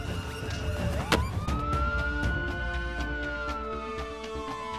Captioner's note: Siren